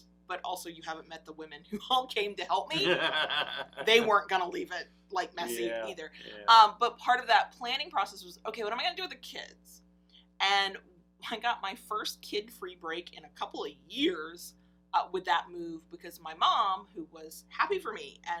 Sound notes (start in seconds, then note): 2.6 laughs